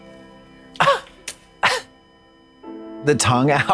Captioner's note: Katya puffs